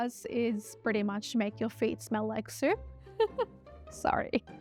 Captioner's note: laughing